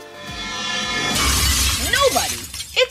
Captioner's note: shatter